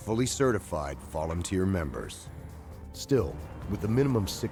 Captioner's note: voiceover